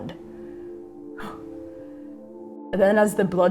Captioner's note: exhaling